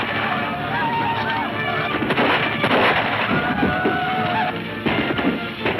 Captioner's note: men shouting; gun firing